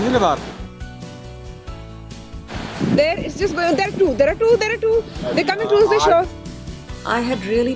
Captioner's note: excited